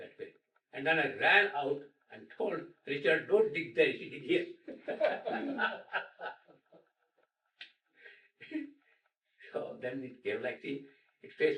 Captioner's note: laughter